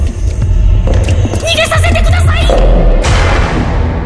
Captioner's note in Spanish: pasos acercándose